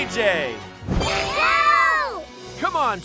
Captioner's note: screaming